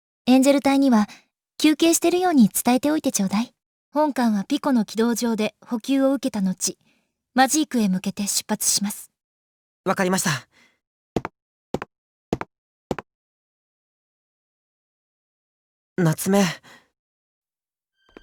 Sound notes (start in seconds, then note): 13.7 silence; 17.8 silence